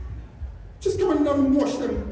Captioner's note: none